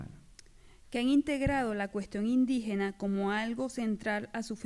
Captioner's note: speaking spanish